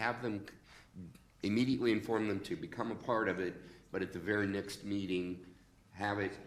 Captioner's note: none